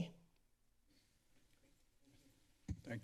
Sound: silence; mic thump

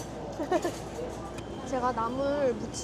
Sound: stupid laugh

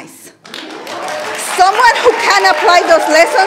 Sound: audience applauding

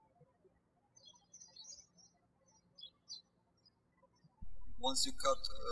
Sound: birds chirping

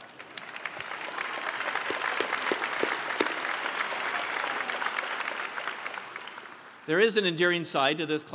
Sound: applause

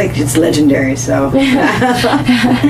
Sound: laughs

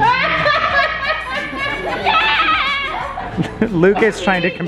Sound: laughs

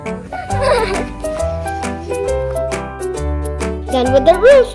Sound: giggles

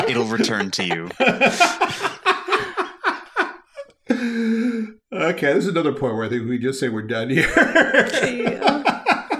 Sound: laughing

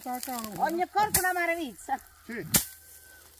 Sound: bird

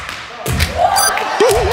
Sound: yelling and laughing

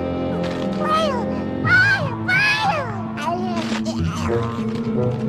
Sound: babbles

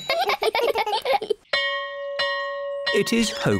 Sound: all giggle; bell rings

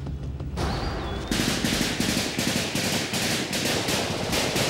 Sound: guns firing

